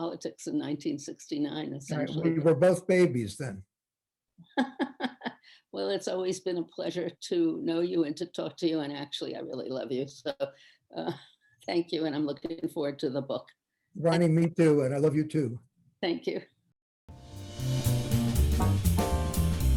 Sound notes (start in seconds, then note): 4.6 laughing; 19.3 theme Music